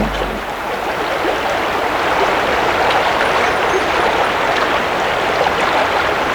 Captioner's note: running water continues